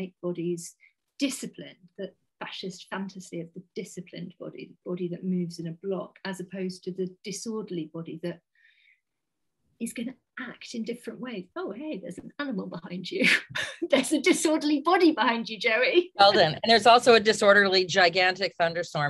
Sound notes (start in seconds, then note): 13.5 laughs